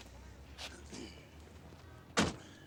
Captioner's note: clears throat